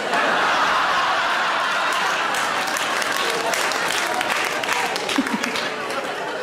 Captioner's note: audience laughing; audience applauding